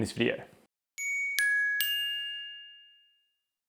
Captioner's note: bells